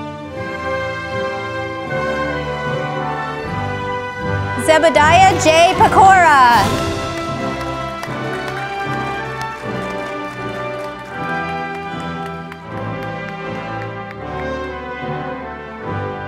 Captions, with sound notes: Zebadiah J. Pecora, (audience applauding)